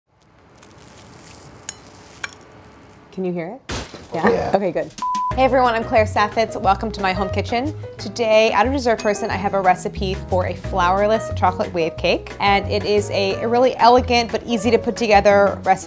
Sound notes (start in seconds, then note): 0.1 cake crackling; 5.9 relaxed jazz music